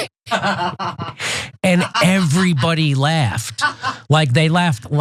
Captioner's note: laugh